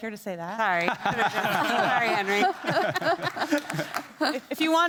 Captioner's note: everybody laughing